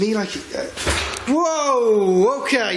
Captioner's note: banging